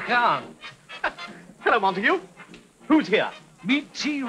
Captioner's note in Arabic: يضحك